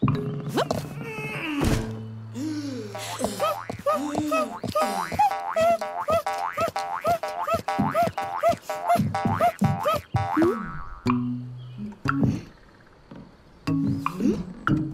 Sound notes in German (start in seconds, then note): 1.4 Müdes Krächzen; 2.3 Schweres Atmen; 6.0 Giraffe summt aufgeregt